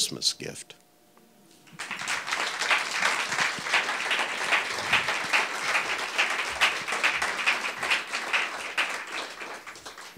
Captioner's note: audience clapping